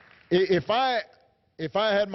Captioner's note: applause